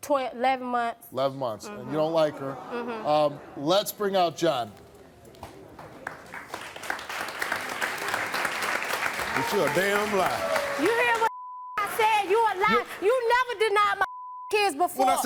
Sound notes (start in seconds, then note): 5.2 audience clapping; 11.3 beep; 14.0 beep